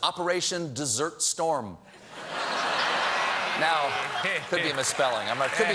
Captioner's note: laughter